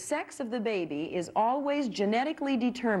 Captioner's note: none